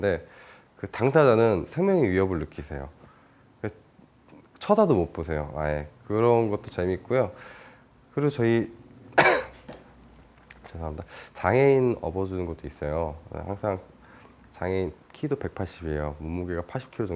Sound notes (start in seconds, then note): 9.1 cough